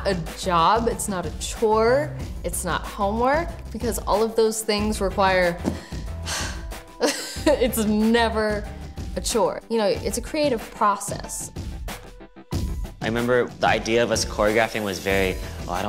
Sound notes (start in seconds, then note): 5.8 sighs